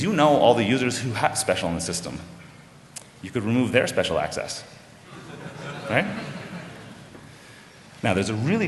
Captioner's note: laughter